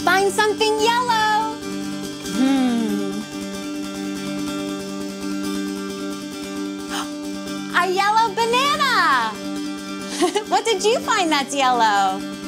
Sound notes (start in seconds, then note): 6.8 gasps; 10.1 chuckles